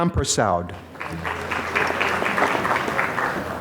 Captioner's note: applause